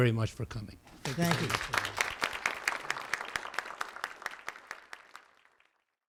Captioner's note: applauding